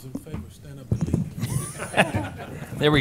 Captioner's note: laughter